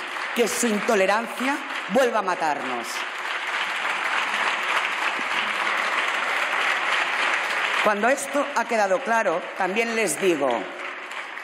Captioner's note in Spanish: Aplausos